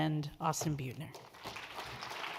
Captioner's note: audience claps